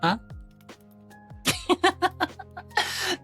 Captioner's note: laughs